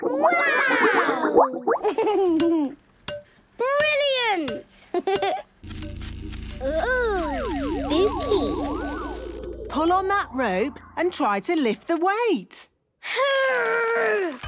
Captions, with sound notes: - Wow! - Click, clack! - Brilliant! Hee, hee! - (pulsing) - Oooh! Spooky! - Pull on that rope and try to lift the weight. - Urrrg!